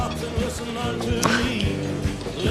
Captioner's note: chuckles